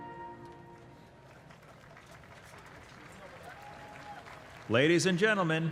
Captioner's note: applause